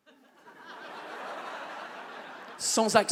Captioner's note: audience laughs